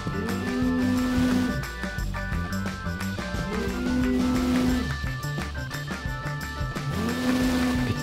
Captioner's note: phone vibrates